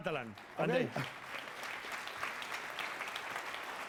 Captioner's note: applause